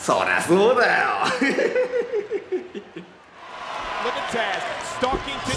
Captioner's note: person laughing